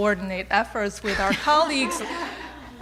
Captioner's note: laughter